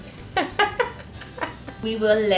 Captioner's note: laughs